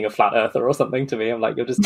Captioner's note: laughing